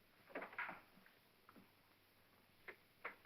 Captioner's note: door opens